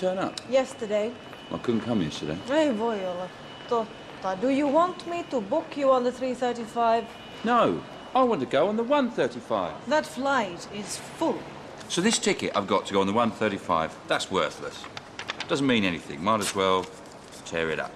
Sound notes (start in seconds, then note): 2.2 speaks Finnish